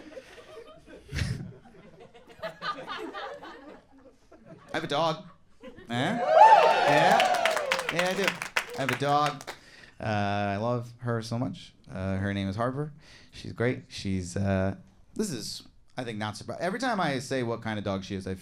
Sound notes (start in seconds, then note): 0.0 crowd laughs; 6.2 crowd cheering and clapping